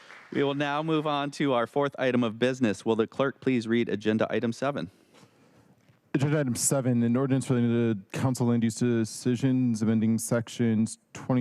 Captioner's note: applause